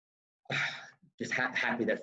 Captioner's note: exhales heavily